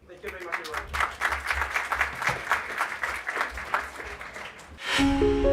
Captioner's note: applause